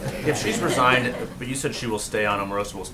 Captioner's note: laughter